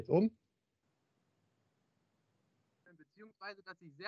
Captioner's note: silence